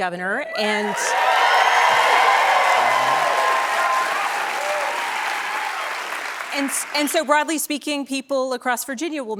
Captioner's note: cheers and applause